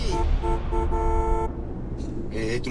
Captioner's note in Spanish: Claxon